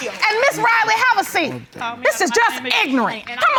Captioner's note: muttering